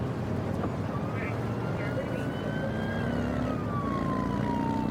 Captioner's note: siren blaring